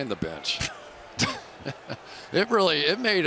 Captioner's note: laughter